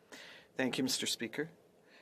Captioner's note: speaking French